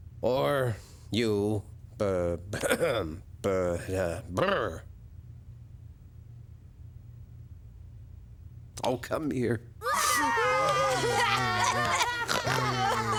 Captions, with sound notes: Or you... Ber... (coughs) Ber... Brr. Oh, come here. (all sobbing)